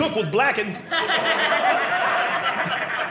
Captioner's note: audience laughing